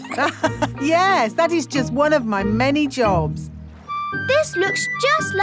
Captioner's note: laughs